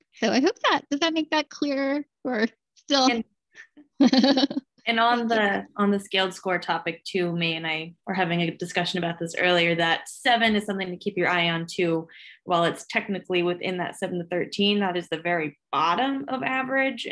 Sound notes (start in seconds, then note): 3.7 laughter